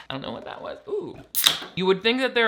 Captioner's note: soda can fizzles